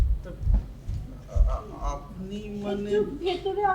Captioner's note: stammers